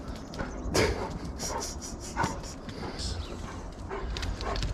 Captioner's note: laughing